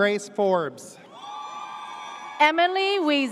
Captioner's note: audience cheers